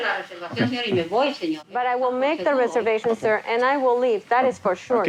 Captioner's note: speaking Spanish